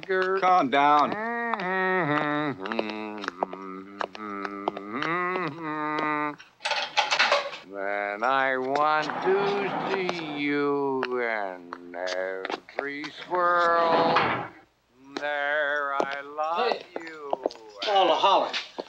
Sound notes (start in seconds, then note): 7.2 cell door opens